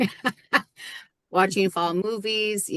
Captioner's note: laughing